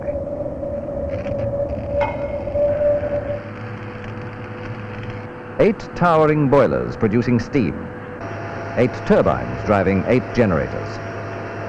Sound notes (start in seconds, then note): 1.5 sound of tools and machinery